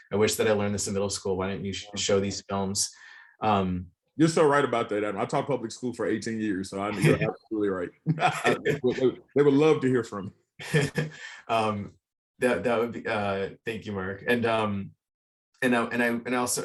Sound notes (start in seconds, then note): 10.6 chuckles